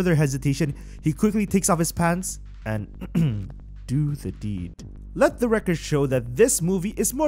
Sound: ehem

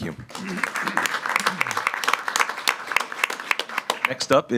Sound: everyone claps

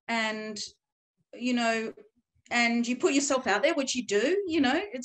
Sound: none

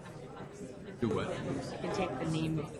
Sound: voiceover

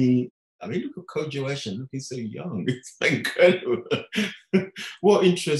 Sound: laughing

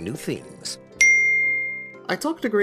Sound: chimes

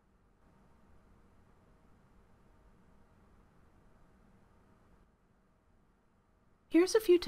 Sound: silence

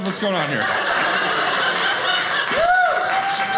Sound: audience laughing

